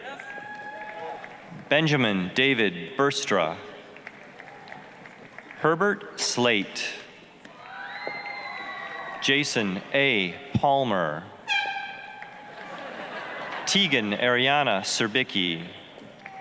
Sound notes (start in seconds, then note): 0.0 applause, cheering; 3.9 applause; 7.5 applause, cheering; 11.4 air horn honking loudly; 12.4 audience laughing; 16.1 applause